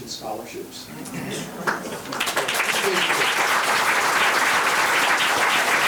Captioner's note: members applauding